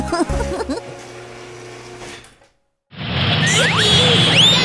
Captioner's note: chuckling; whirring